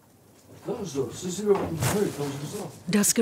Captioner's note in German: Stimmen